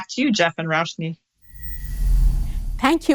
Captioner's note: air whooshes